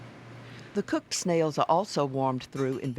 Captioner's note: voiceover